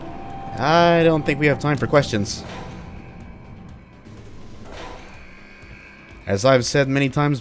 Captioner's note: klaxon continuing